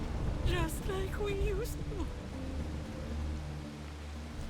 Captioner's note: sobbing